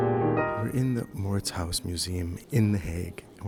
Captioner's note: voiceover